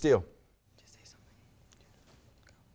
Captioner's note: whispers